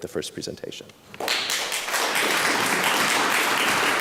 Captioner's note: applause